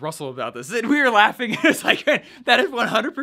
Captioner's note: laughs